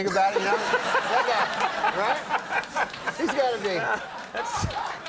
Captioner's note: Conan laughing